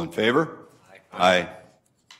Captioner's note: multiple voices